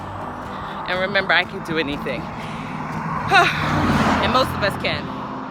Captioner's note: sighs